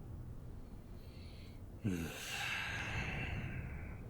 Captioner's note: deep sigh